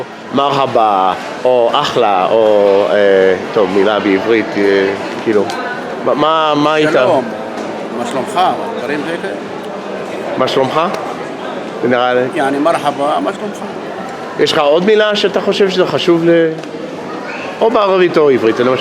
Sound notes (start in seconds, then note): 12.5 in Arabic and Hebrew